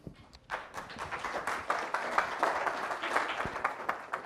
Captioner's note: audience applauding